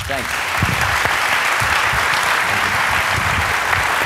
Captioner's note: applause